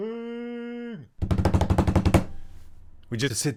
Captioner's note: finger drumroll